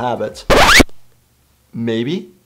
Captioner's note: record scratching